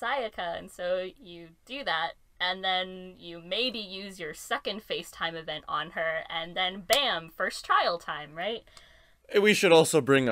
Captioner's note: clap